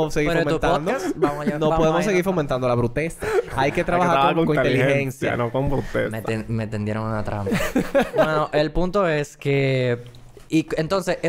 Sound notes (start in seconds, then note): 3.4 laughs; 7.5 laughs